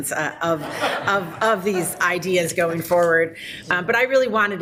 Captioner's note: people laughing